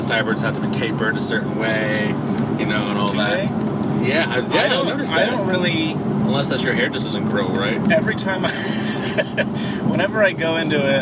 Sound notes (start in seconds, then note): 8.5 laughs